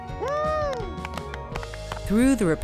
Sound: cheers

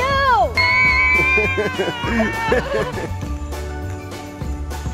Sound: screaming; upbeat outro music

